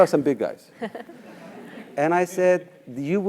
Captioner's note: laugh